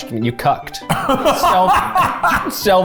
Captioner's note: laughs